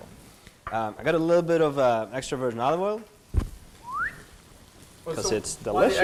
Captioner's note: whistling